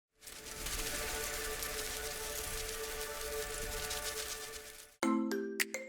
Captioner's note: butterflies Fluttering; peppy Marimba-like Music